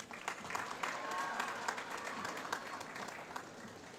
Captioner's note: applause